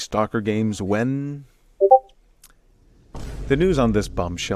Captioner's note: Discord sound effect